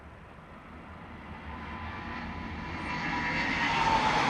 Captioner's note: plane engine